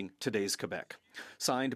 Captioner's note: speaking French